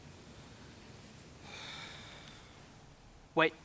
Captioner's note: sighs